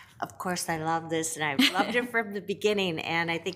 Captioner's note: laughs